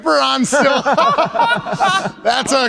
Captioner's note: laughs